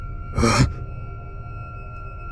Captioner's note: sniffs